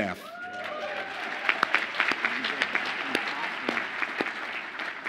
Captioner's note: audience applauds and cheers